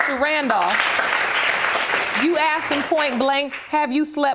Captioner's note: audience applauds